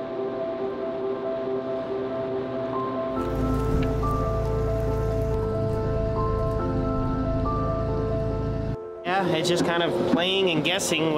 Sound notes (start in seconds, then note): 0.1 intense piano music; 3.1 machinery whirring; 3.5 peaceful piano music